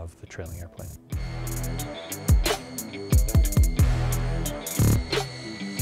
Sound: music/jet engine revving up

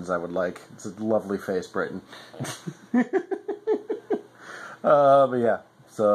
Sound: laughs

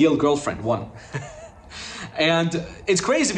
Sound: laughing

